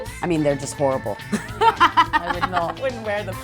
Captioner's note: laughs